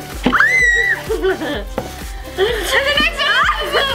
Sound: screams

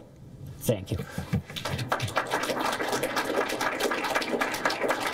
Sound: applause

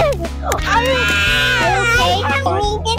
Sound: crying begins

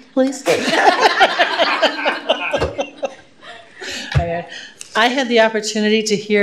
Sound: laughter

